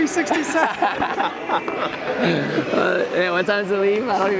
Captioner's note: laughing